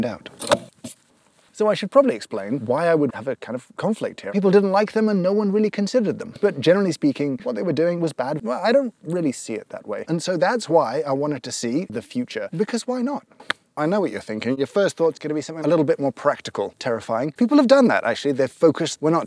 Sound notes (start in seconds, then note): 13.4 thigh smack